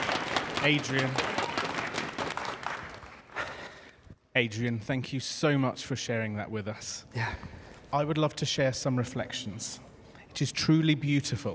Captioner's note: applause